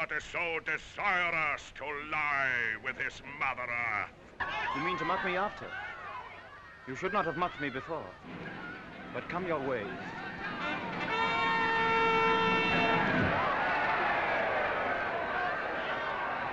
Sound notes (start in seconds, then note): 10.3 trumpets reporting; 10.8 crowd cheering